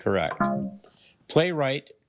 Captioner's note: failure chime